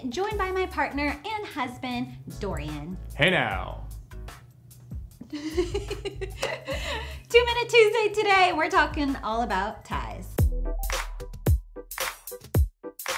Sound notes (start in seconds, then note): 5.2 giggles; 10.4 upbeat music